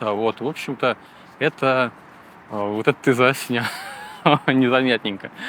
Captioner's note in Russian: смех